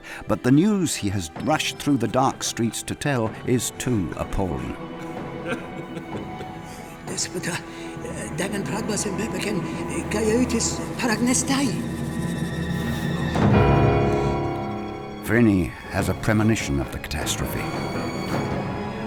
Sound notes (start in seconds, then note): 4.9 gentle music; 7.1 man speaking in Greek; 12.3 dramatic music